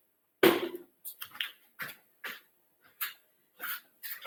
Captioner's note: socks thudding